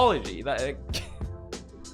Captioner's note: laughing